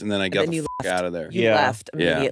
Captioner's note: beep